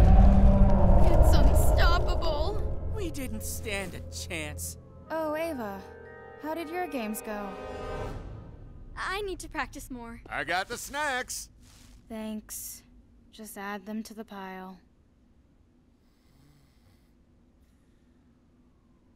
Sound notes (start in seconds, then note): 16.0 snoring